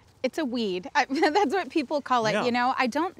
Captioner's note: laughs